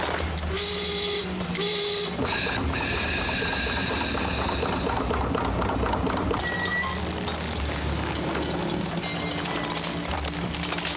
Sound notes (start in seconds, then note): 0.0 machines whirring; 0.5 air horn blowing